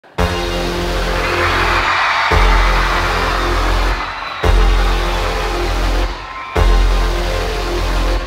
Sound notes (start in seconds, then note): 0.0 upbeat music; 0.7 audience applauding